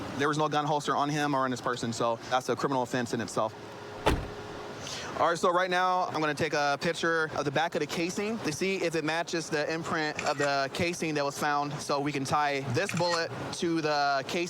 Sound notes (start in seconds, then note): 9.2 camera app clicks